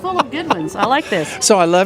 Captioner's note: laughing